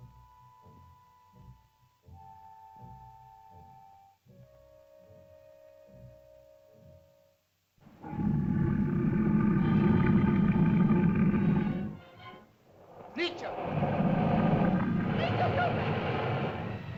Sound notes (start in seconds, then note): 7.9 loud growling; 7.9 suspenseful music; 12.7 dinosaurs growl; 13.0 speaking in caveman language; 15.8 dinosaurs growl; 15.8 ominous music